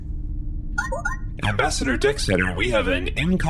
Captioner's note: transmission alert noise